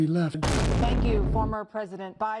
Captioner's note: boom